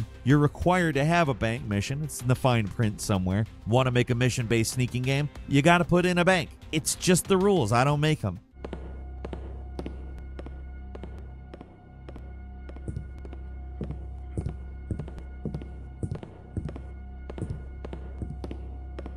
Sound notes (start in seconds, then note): 9.5 footsteps; 9.5 foreboding music